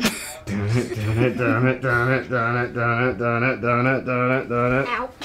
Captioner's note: child laughs; Josh vocalizing EDM music